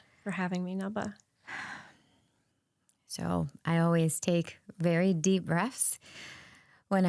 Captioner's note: exhales